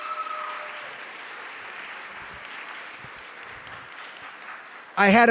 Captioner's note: cheering